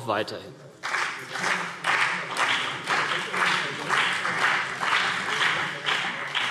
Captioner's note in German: Beifall CDU und BÜNDNIS 90/DIE GRÜNEN